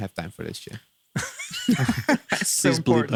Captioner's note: laughing